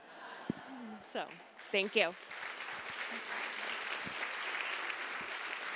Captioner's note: audience laughing; applause